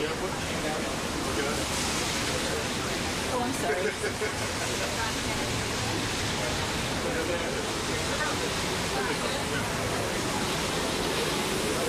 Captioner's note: cheers and applause